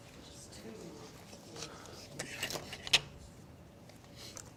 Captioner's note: students discussing